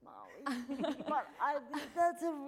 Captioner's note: laughing